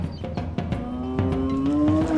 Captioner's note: hippo calls